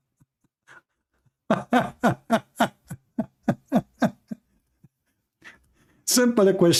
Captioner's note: Ketawa